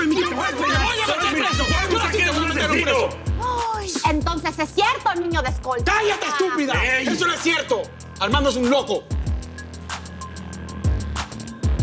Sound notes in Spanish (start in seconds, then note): 2.2 Grito ahogado